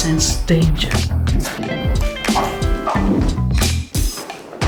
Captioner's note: swooshing